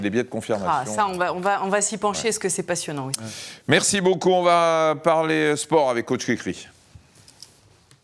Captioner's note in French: grognement